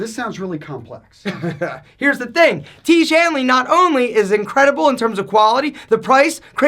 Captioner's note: laughs